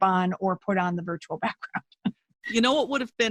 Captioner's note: chuckles